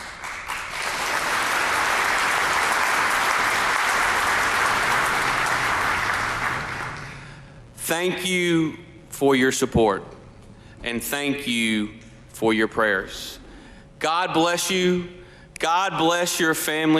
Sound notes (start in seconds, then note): 0.0 applause